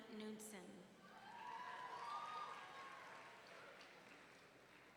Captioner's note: audience cheering